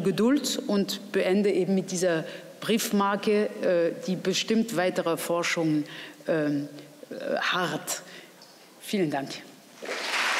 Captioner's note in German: Applaus